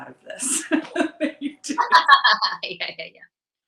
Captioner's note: both laughing